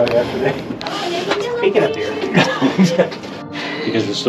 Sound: laughing

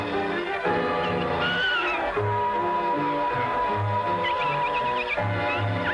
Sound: high-pitched buzzing

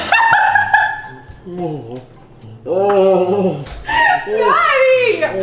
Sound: laughing; moaning

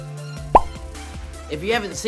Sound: pop sound

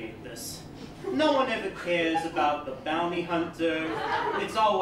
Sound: laughter

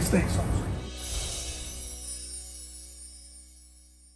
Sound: chimes ringing

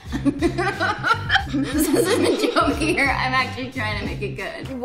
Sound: giggling together

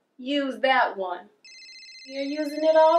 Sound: cellphone ringing

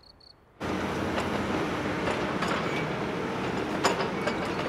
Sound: sounds of heavy machinery

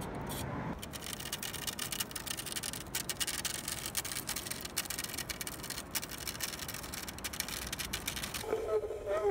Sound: dragging stick along cement

